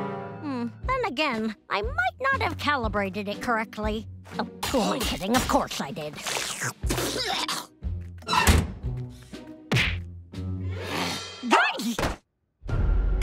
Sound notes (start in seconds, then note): 6.2 slurps; 10.5 yelps